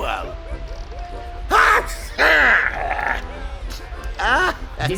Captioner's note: sneezing